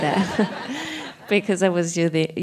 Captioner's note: laughs